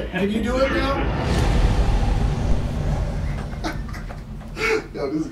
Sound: air whooshing; man laughing

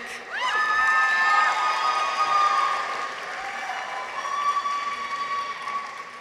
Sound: people cheer; audience applauds

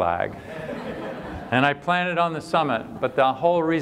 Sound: laughter

